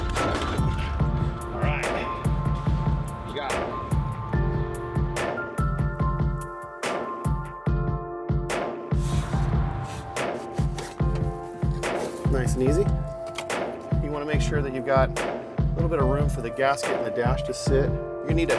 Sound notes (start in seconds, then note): 0.0 steering column clanking; 5.4 piano and drum music; 9.8 spray can hissing; 11.4 steering column sliding